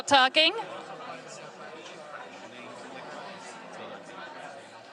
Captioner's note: audience chatting